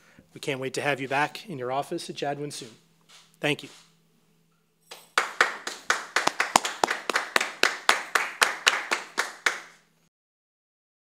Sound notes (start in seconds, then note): 4.9 applause